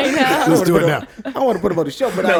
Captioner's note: laughs